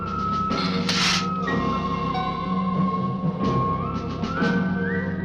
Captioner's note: lizard hissing